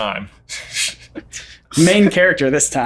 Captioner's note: laughs